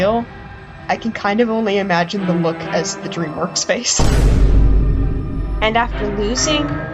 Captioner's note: boom